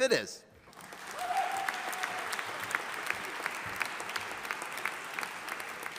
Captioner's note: audience applauding